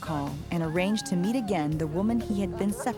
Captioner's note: Elsa laughs